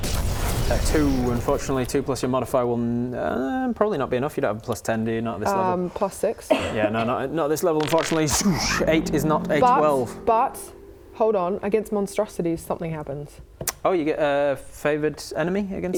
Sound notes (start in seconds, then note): 7.9 swoosh